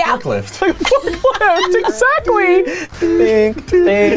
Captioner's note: laughing